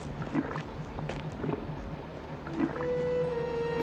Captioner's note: The Stuff gurgling